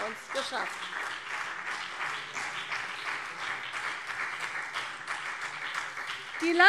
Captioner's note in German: Beifall CDU und BÜNDNIS 90/DIE GRÜNEN